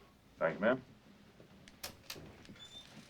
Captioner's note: opening door